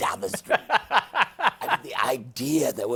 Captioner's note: laughs